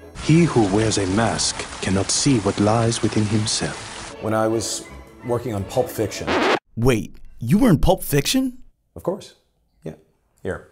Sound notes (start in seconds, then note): 6.2 record scratches